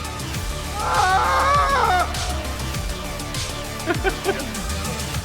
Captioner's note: tense electronic music continues; Andrews screaming; Andrews laughing